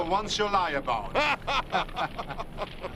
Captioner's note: laughing